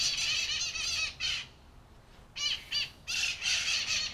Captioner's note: birds chirping